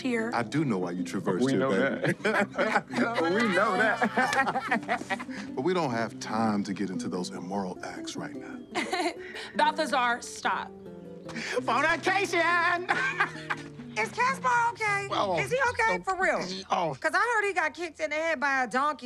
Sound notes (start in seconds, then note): 1.4 three wise men laughing; 8.8 forced chuckling; 12.1 laughs